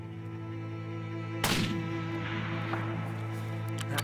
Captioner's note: gunshot